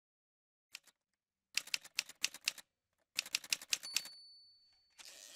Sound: typewriter sounds

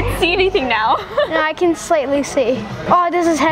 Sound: laughs

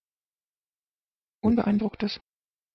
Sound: fast Pronunciation

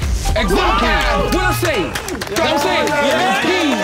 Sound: everyone cheering

